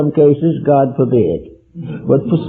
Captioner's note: laughter